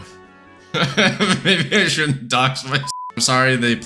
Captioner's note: laughs